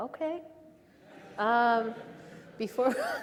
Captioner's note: audience laughs; laughs